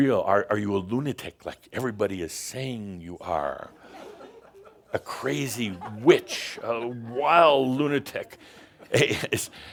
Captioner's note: laughter